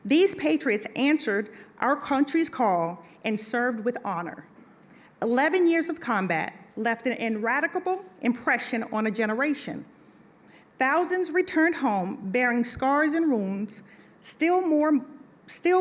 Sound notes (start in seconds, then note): none